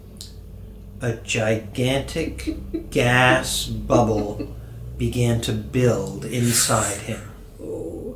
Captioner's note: giggling